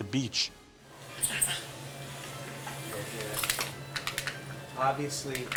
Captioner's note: mumbling